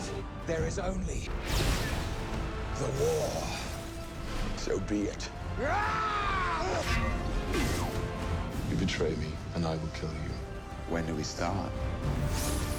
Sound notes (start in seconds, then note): 5.5 grunting; 5.5 yelling